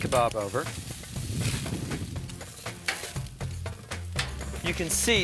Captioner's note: kebabs sizzle